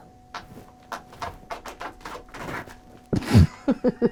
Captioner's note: crackling debris; people laughing